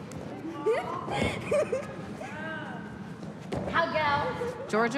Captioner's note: laughs